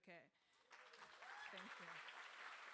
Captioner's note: crowd applauding